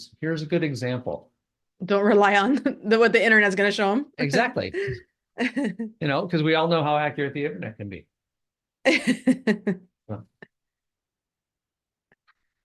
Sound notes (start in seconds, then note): 8.8 laughs